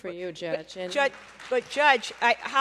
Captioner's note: applause